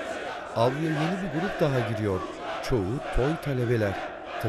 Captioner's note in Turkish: Hep bir ağızdan